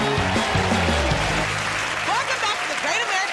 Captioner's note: cheers and applause